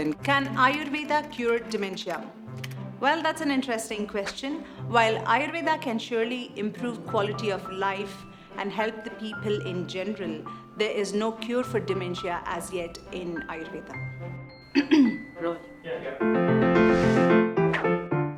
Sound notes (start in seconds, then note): 14.7 clears throat